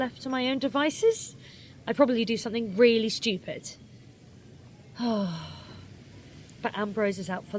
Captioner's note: sighs